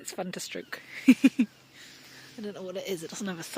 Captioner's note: chuckles